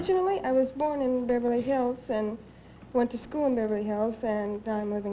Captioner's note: none